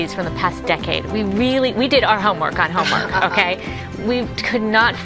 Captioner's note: laughs